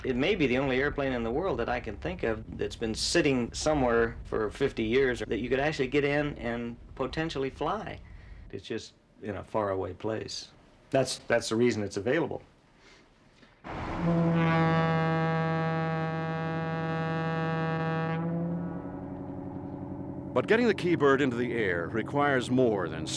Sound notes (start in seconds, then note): 13.6 ship's horn blows